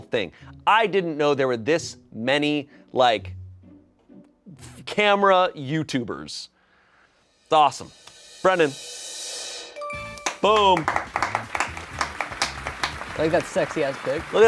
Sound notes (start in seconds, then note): 8.8 drum roll hisses; 9.8 bell chimes; 10.3 crew applauds